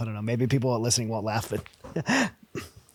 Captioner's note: laughing